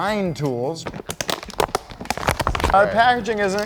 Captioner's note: crinkling